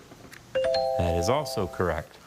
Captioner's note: bell chimes